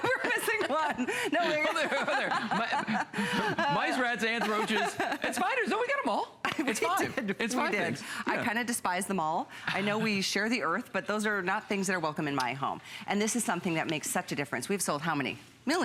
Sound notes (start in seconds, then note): 0.0 laughter